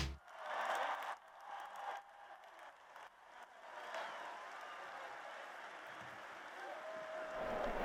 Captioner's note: applause